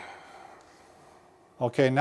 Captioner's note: exhaling